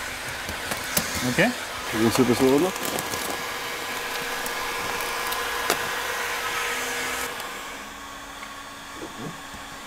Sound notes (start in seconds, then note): 4.8 föhn noises